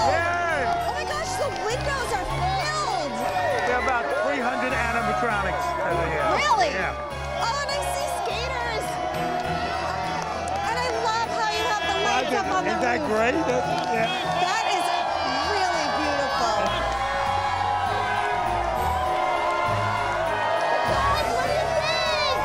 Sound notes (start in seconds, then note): 16.7 crowd cheering